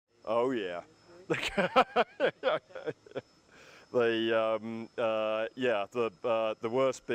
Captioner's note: laughter